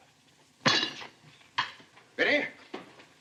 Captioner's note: cutlery clanks